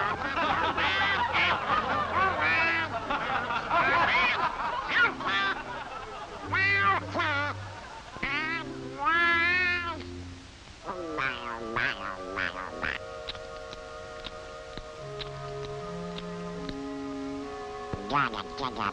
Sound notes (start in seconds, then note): 0.0 the audience laughs; 4.2 quacking/talking